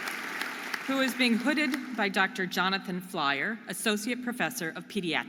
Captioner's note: audience applauding and cheering